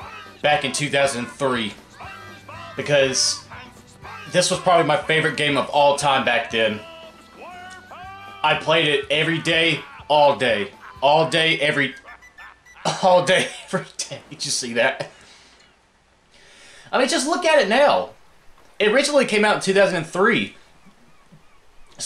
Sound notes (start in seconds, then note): 12.0 SpongeBob whistling with nose; 15.2 laugh